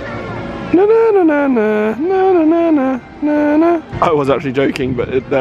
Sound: humming

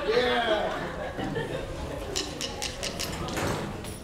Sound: audience laughing

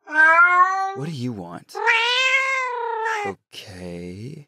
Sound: cat sounds

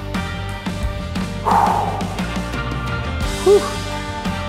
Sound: sighs

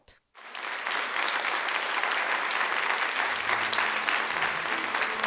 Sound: applause

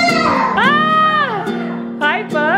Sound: yelling

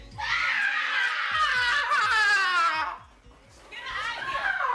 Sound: Crystal screaming

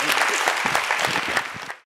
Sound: applause

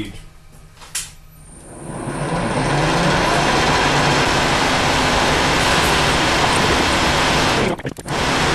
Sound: sound of gear being changed

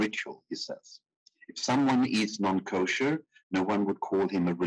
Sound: speaking in foreign language

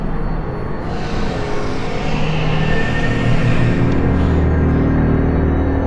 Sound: tense music; jets roaring

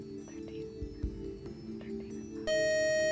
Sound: buzzer

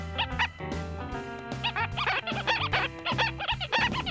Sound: squeaking

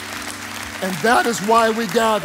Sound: congregation cheering and applauding

